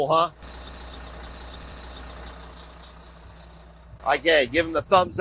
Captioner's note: bus engine rumbling